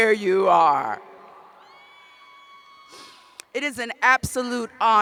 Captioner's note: cheers